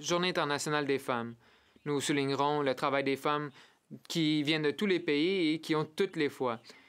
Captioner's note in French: voix de l'interprète